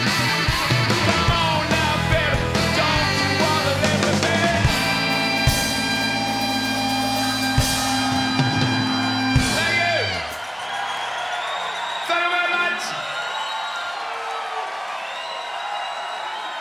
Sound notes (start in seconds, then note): 7.5 audience cheering